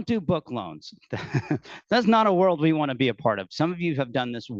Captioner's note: laughing